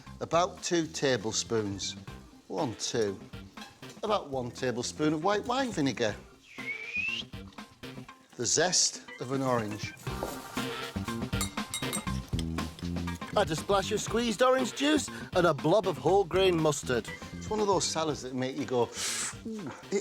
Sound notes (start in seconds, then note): 6.4 whistles; 11.4 grater clangs